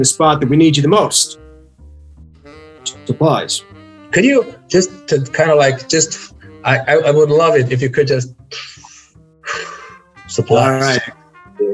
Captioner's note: inhales